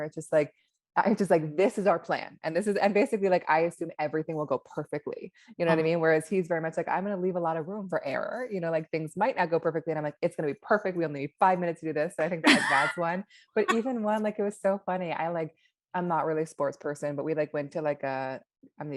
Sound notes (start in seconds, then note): 12.5 laughs